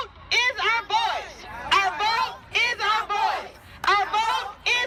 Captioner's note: chant